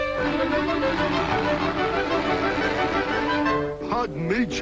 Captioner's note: grape stretching